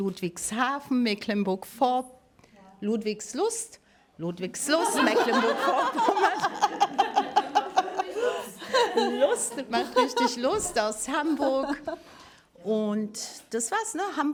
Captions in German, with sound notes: Ludwigshafen, Mecklenburg-Vorp..., Ludwigslust (Gelächter) Ludwigslust, mach richtig Lust aus Hamburg und das war's.